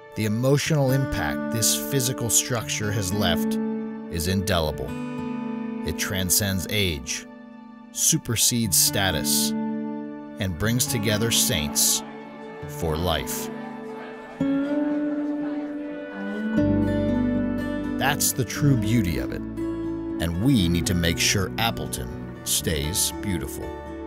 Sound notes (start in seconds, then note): 12.6 chatter; 14.0 gentle music